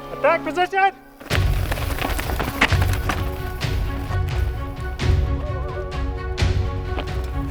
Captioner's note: suspenseful music; bike rustling